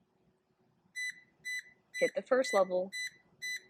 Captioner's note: beeping